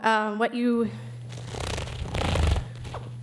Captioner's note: wings flapping